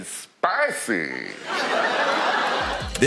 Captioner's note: laughter